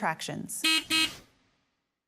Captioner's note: beep, beep